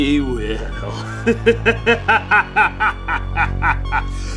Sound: evil laugh

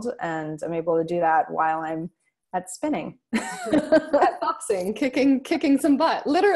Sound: laughs

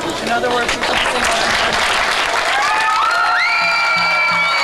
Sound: applause

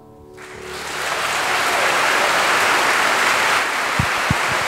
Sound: audience applauding

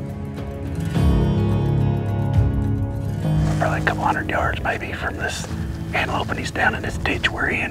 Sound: whispering

